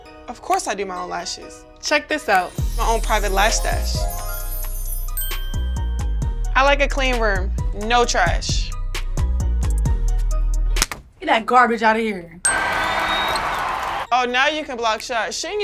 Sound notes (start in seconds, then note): 12.4 cheering